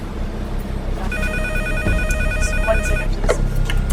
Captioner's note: phone ringing